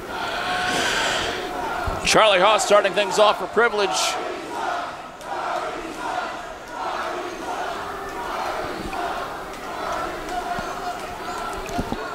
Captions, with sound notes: Charlie Haas, starting things off for Privilege. (crowd chanting)